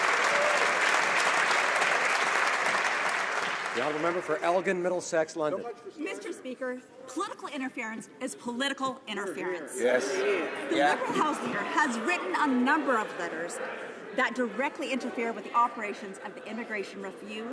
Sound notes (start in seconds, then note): 4.5 some Applause